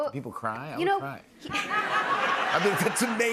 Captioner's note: laughter